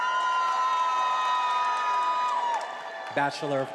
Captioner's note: attendees applauding and cheering